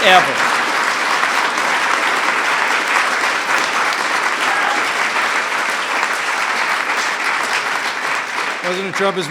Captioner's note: applause